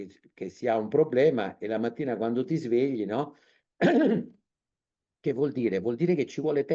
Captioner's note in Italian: schiarire la voce